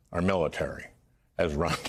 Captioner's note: laughter